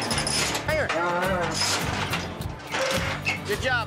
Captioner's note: clanging sounds